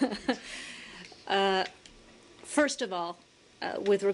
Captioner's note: laughter